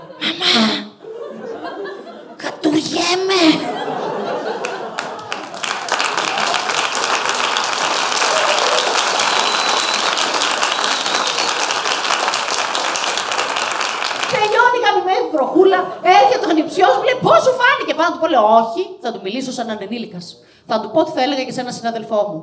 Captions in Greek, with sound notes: ΜΑΜΑ! ΚΑΤΟΥΡΙΕΜΑΙ... (ΓΕΛΙΑ ΚΑΙ ΧΕΙΡΟΚΡΟΤΗΜΑΤΑ) ΤΕΛΕΙΩΝΕΙ ΚΑΠΟΙΑ ΣΤΙΓΜΗ Η ΓΑΜΗΜΕΝΗ Η ΒΡΟΧΟΥΛΑ ΕΡΧΕΤΑΙ Ο ΑΝΗΨΙΟΣ ΜΟΥ ΛΕΕΙ "ΠΩΣ ΣΟΥ ΦΑΝΗΚΕ;" ΠΑΩ ΝΑ ΤΟΥ ΠΩ, ΣΚΕΦΤΟΜΑΙ ΟΧΙ, ΘΑ ΤΟΥ ΜΙΛΗΣΩ ΣΑΝ ΝΑ ΕΙΝΑΙ ΕΝΗΛΙΚΑΣ ΘΑ ΤΟΥ ΠΩ Ό,ΤΙ ΘΑ ΕΛΕΓΑ ΚΑΙ Ε ΕΝΑΝ ΣΥΝΑΔΕΛΦΟ ΜΟΥ